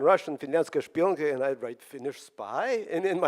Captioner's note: speaks Russian